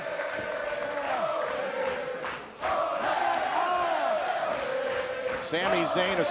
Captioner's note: fans chanting